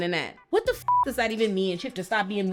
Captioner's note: beep